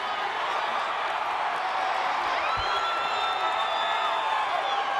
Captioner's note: audience cheering